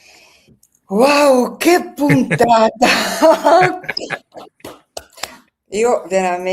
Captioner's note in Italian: risate